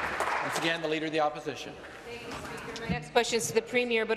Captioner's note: applause